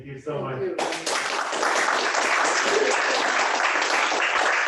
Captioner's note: crowd applauding